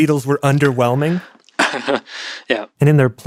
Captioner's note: laughs